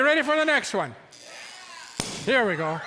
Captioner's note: electricity sizzles, cork pops, audience yelps